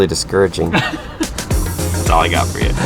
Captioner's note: laughing